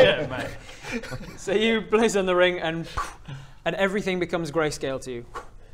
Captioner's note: poof